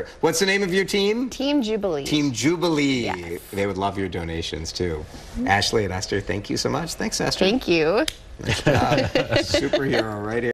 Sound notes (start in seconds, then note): 8.5 laughs